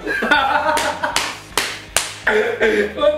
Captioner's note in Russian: Смех